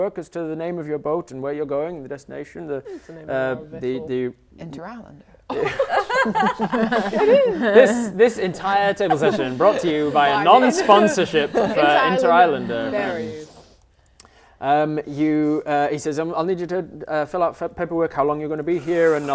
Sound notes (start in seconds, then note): 5.5 laughing